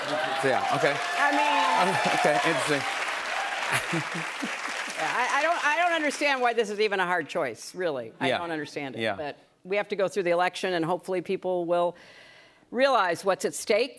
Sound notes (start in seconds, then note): 3.5 cheers and applause